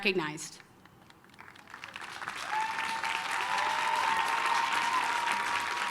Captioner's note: applause, cheering